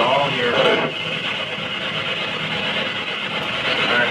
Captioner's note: device bangs